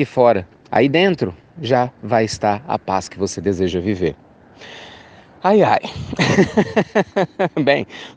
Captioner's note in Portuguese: risos